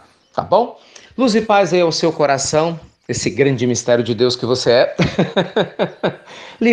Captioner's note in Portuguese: Risos